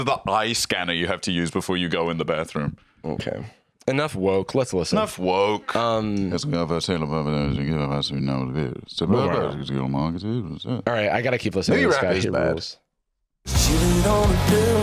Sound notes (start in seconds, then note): 6.3 mumbling whitely